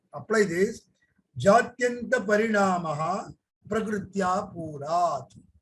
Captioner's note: speaks in Hindi